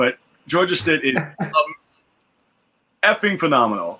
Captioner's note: laughs